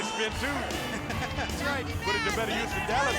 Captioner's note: laugh